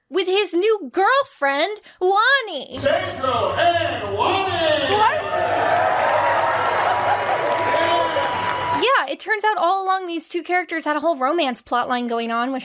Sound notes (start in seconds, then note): 6.8 guests cheering